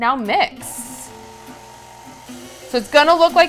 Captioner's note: mixer whirring